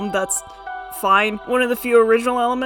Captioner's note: with the voice of someone who misses practical effects